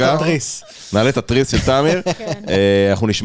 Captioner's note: laugh